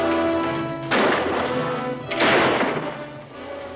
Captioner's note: guns firing